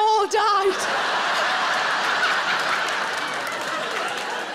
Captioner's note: audience laughing